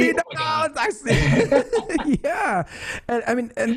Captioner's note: laughs